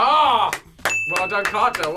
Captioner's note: clapping; bell dings